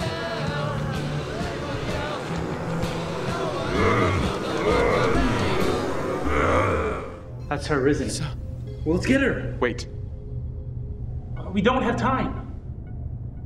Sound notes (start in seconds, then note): 0.8 zombies groaning